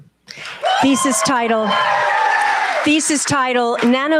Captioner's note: cheers, applause